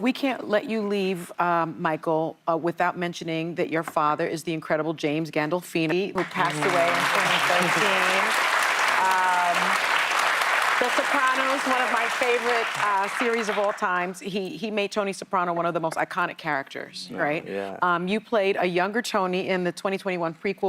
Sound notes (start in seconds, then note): 10.9 applause